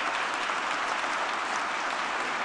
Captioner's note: applause